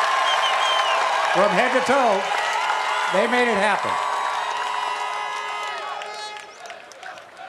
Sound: cheers and applause

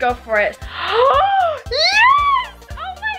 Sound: gasps

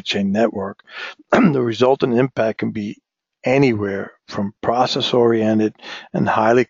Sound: cough

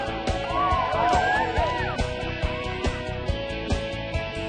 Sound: clapping

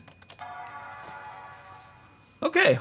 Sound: computer dings

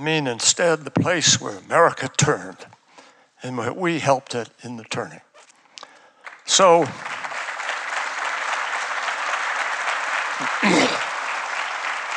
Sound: applause

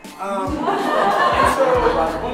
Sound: laughing

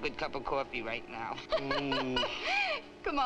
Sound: Nona laughing; Duke groans

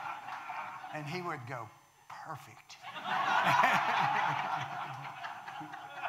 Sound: audience laughing; audience laughing

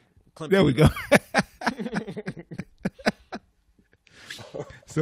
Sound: laughter

